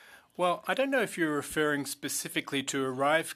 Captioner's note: speaking French